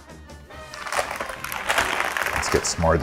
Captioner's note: bag crinkling